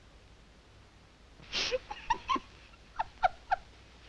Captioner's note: laughing